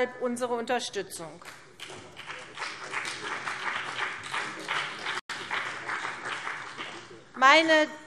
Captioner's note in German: Beifall CDU und BÜNDNIS 90/DIE GRÜNEN